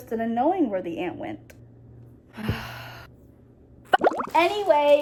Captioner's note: sighs in stress